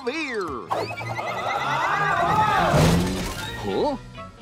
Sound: Gordon yelling

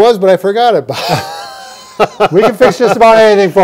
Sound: both laughing

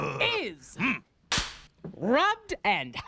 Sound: Cleo cracks pointer

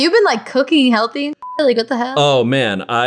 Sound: beep

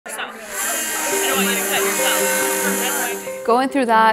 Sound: saw buzzing

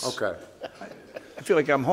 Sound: inspector laughs

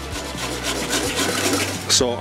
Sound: scraping pan

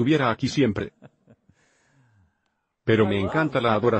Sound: chuckles

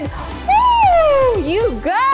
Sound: shouting

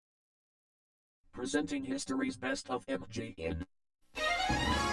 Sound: with computer-generated male voice

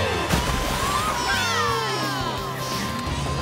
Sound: cheering

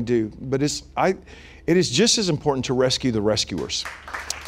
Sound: applause

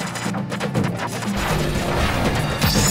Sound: thunderclap; electricity snapping

